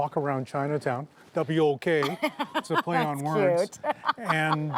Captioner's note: laughs